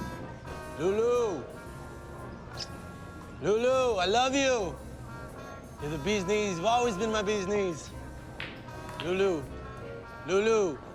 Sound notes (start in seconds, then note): 2.5 kissing